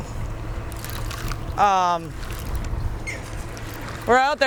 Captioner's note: reel clicking